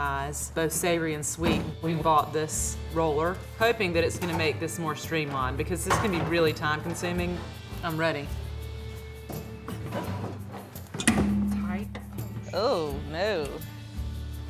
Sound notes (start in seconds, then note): 11.0 thump